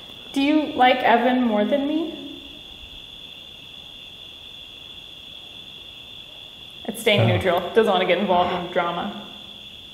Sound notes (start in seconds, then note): 2.8 crickets chirping